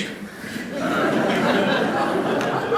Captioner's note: laughter